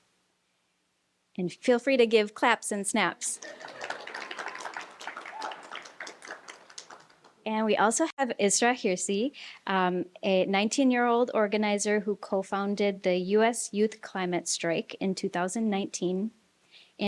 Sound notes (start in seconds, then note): 3.3 applause